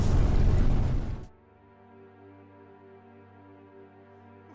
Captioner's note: Sound of GZ beam being shut down